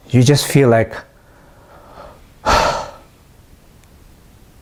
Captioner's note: sigh